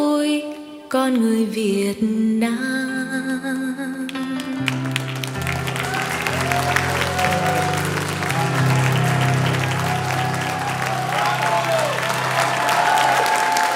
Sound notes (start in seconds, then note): 4.3 bright music continues; 4.6 audience cheering and applauding